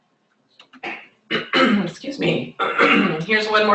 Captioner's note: clears throat